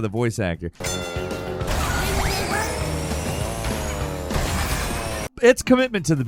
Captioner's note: bell rings; engine revs